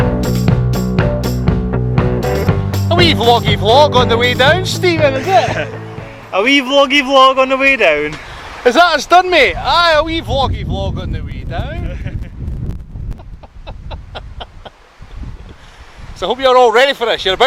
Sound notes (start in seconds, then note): 13.1 chuckling